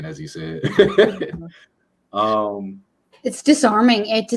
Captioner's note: laughs